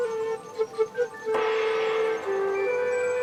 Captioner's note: gong sounds